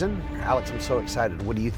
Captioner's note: none